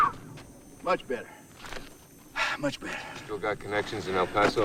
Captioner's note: sighs